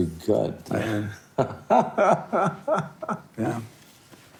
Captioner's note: laughing